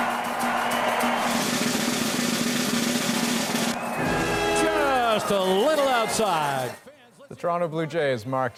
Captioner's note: applause